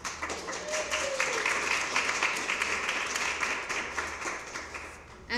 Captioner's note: cheering and applause